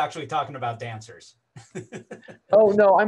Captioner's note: laughs